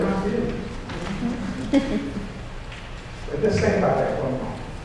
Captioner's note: chuckles